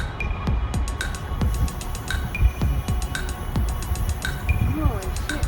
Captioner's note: hissing noise